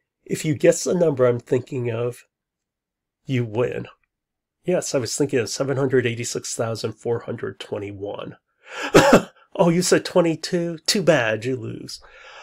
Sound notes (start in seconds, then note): 8.8 laughs